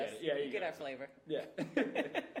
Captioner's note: laughing